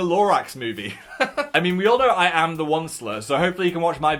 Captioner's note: laughs